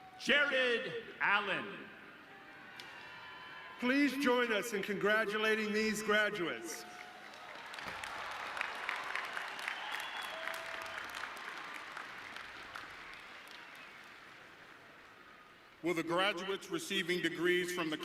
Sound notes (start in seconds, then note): 6.8 audience cheering